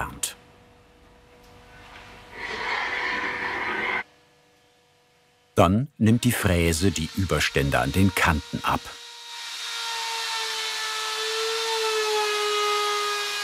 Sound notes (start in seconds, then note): 2.3 scraping noise; 10.1 machine whirring